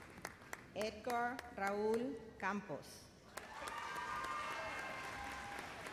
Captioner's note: cheers and applause